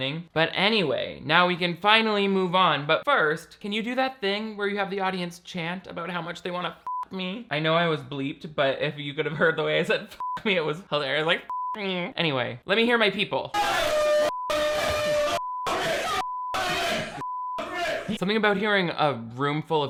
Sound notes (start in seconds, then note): 6.9 beeps; 11.5 beeps; 13.5 group yelling